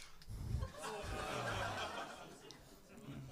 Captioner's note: laughs